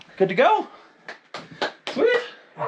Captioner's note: clapping